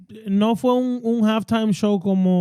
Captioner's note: speaking Foreign Language